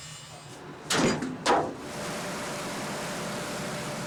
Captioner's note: cable clanks